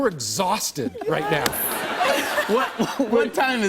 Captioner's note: laughter